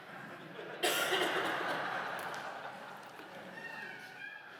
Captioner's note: laughter